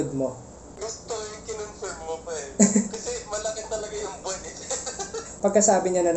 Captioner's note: laughs